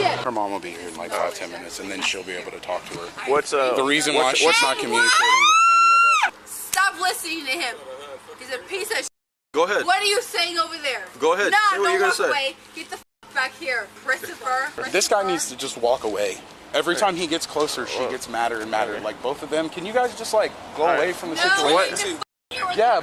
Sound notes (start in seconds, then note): 4.8 screaming